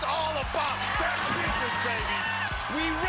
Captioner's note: cheering